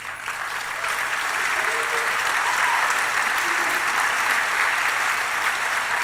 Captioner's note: applause